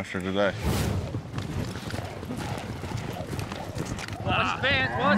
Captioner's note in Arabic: ضربات حوافر